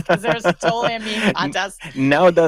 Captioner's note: laughs